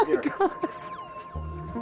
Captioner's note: crying